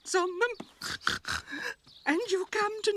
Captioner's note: crying